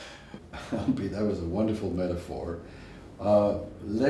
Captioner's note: laugh